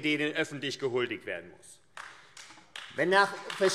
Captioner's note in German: Beifall AfD